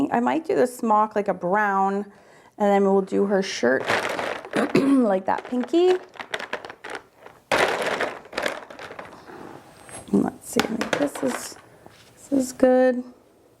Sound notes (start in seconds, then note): 5.0 markers rattling